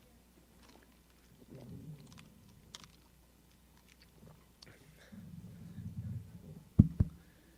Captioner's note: silence